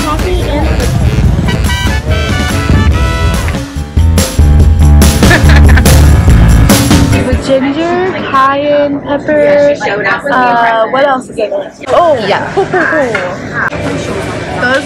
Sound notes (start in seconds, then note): 5.2 laughing